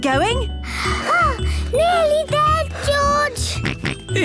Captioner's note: panting; snorts